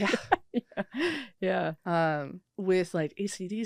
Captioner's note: laughing